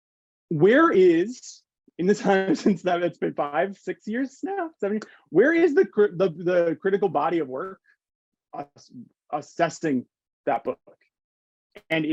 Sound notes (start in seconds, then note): 5.1 hands clapping